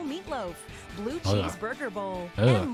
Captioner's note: audible disgust